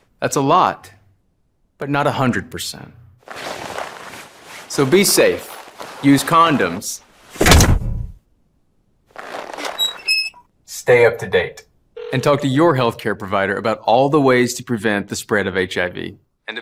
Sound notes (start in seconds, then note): 3.2 suit crinkles; 7.5 helmet cranks and squeaks; 12.0 telephone rings